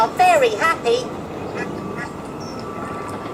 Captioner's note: ducks quacking